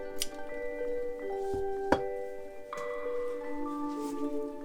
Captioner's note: scissors snipping; tranquil music